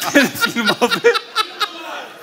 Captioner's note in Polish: śmiech